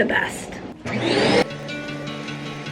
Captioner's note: vacuum starting